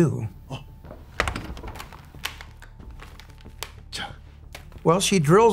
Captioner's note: speaks in foreign language